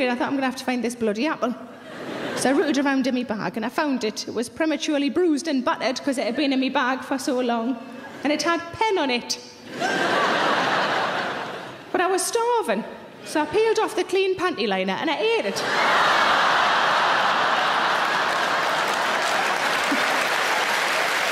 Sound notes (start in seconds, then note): 9.6 audience laughing; 15.5 audience laughing; 17.9 audience applauding